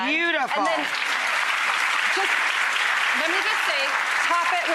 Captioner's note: audience applauds